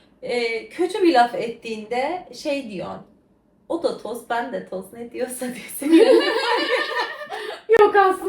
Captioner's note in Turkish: kahkaha